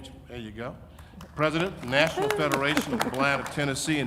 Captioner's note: audience applauding